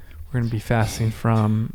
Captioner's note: chuckles